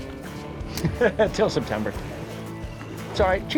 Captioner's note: laughs